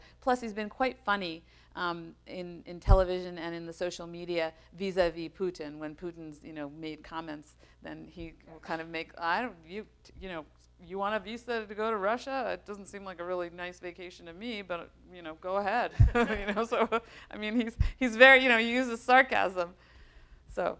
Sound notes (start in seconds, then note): 16.0 laughs